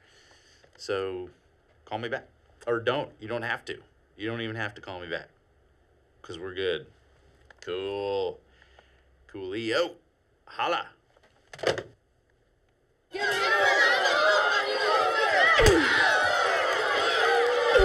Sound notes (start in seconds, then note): 13.2 students cheering